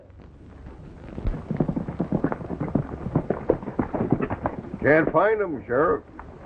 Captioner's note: horses galloping